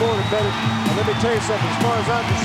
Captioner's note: audience cheering